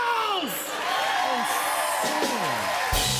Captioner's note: cheers and applause